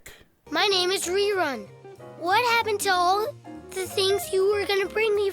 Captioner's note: haltingly